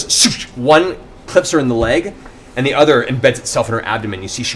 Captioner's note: impact sounds